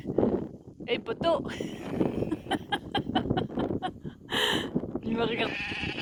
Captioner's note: laughs